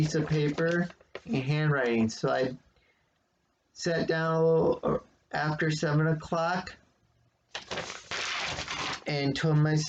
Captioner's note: rustling of paper; rustling of paper